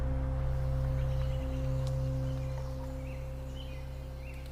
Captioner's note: birds chirping